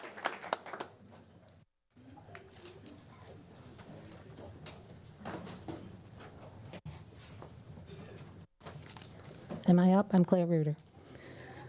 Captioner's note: applause